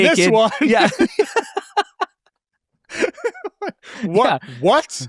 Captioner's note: laugh